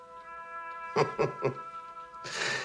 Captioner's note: chuckles